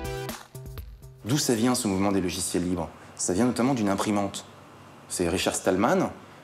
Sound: speaking in a foreign language

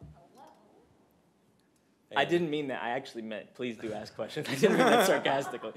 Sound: laughter

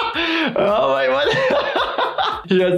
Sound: laughing

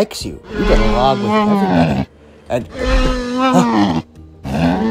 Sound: bumpy Sounds

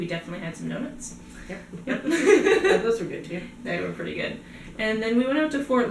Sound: laughter

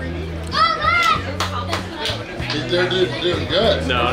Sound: crowd cheering

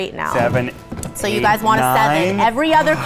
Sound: gasps

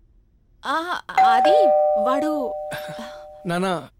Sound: door bell rings

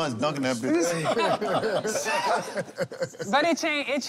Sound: laughter

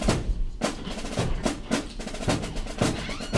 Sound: door creeks open and close

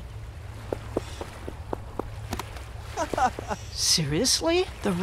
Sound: footsteps approaching

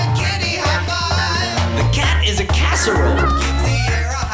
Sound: cat mews

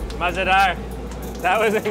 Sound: speaking in foreign language

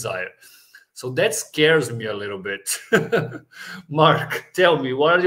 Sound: chuckles

